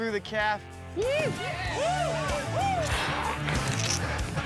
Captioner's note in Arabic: الناس يهتفون